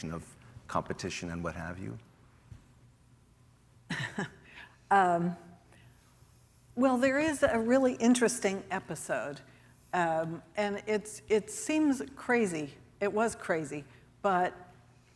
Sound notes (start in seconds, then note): 3.9 chuckles